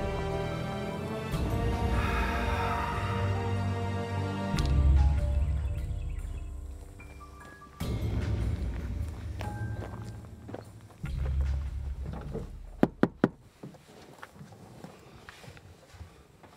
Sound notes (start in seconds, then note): 4.6 birds chirping; 7.8 dramatic music; 12.8 door knocking